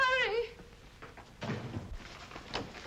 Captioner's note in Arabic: يغلق الباب